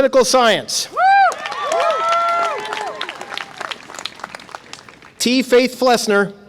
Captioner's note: audience applause and cheer